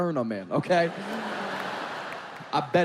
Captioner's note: audience laughing